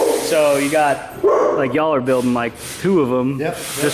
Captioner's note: loud barking